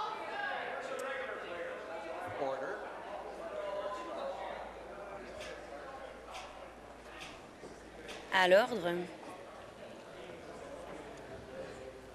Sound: conversation din

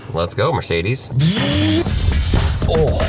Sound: man revving; upbeat music

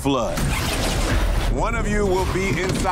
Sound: scene whooshing

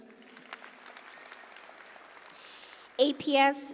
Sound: audience applauding

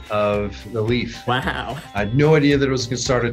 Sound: laughs

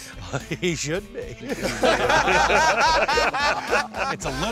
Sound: laughter

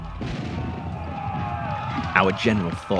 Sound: new England accent

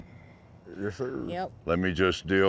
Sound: cowboys responding

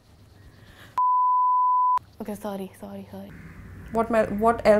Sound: beeping

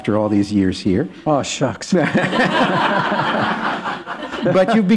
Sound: laughter

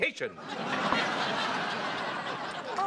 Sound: laughter

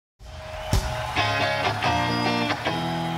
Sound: audience cheering

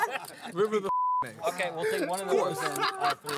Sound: laughter; beep

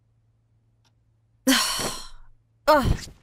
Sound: sighs

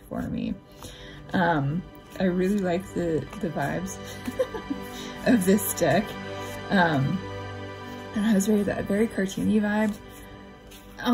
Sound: laugh

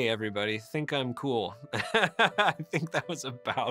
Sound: laughing

